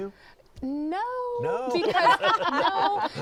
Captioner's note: laughter